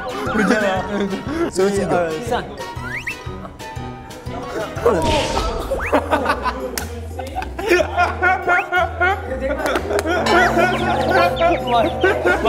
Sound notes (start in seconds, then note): 4.9 bang; 7.5 laughing so hard